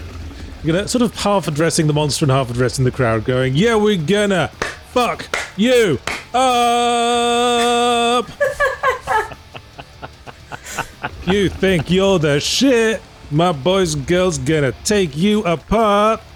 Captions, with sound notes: you know, sort of half addressing the monster and half addressing of the crowd going, yeah, we're gonna *clap* fuck *clap* you *clap* uuuupppp! You think you're the shit? My boys and girls gonna take you apart.